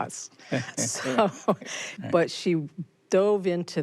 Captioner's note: both laugh